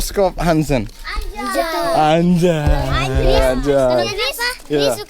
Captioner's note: cursing in indonesian